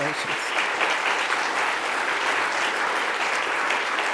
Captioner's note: audience clapping